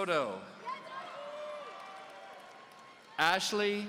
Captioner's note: audience cheering